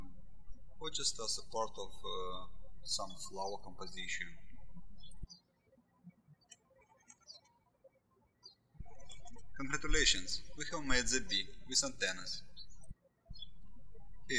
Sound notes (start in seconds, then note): 5.1 birds chirping